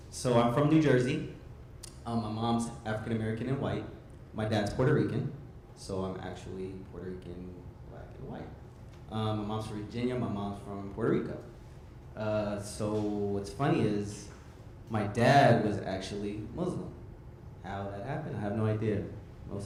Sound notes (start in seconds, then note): none